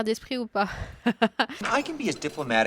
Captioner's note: laughs